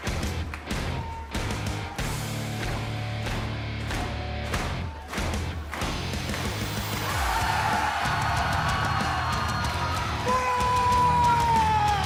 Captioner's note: crowd cheering